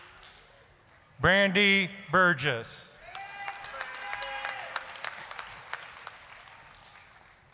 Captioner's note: applause, cheering